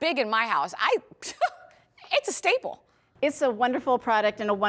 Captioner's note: laughs